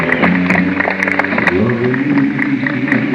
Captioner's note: applause